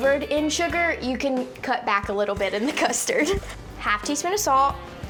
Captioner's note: giggles